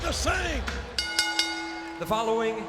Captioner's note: bell ringing